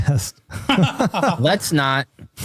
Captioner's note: laughing